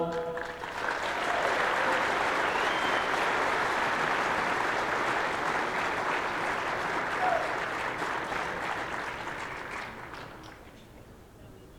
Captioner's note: applause